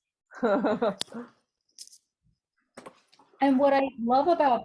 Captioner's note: laughing